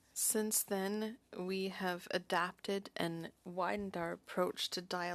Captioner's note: speaking French